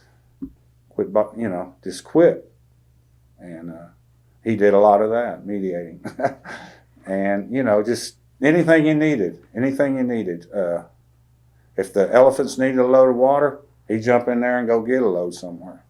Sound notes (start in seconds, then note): 6.0 laughs